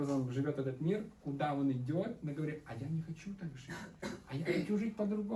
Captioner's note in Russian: откашливается